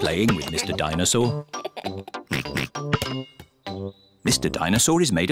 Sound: laughs and oinks

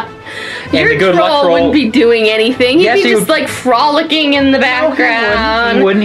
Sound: laughs

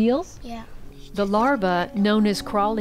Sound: voiceover

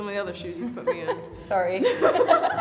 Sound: laughing; chuckles

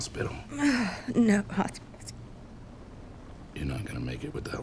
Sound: sighs

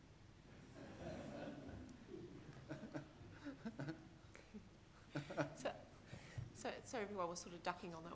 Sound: laughter

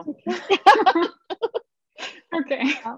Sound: laughter

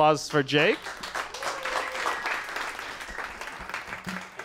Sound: applause

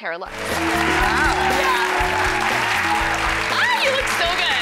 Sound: audience cheering

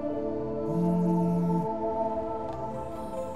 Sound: phone buzzing

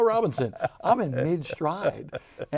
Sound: laughing

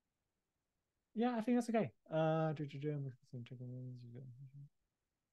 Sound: murmuring

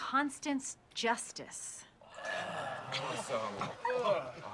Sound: all groan

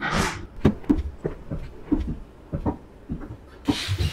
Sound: footsteps

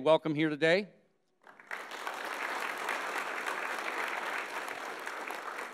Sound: audience applauding

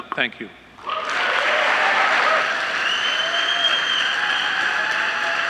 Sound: audience applauding

